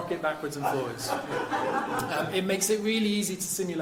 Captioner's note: crowd laughing